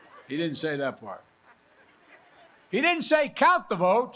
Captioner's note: laughter